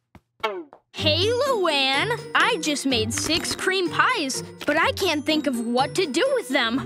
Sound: none

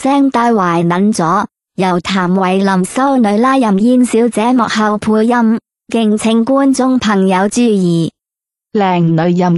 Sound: ภาษา กวางตุ้ง

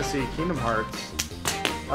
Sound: smack

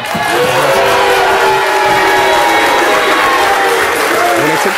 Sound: audience applause

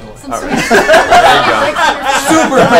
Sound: all laugh

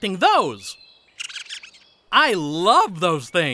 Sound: squirrel chattering

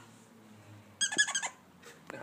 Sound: squeak

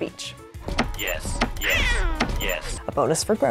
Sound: coos

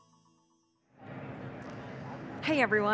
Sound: airy white noise rumbling

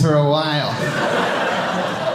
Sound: audience laughing

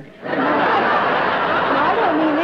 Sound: laughter

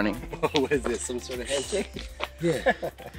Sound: laughing; laughs

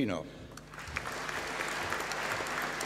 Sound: applause

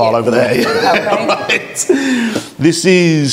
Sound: everyone laughing

